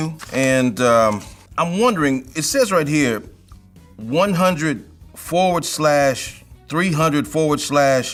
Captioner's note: flipping through papers, making paper fumbling noises